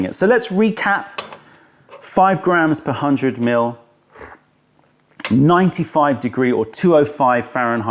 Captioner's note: sips tea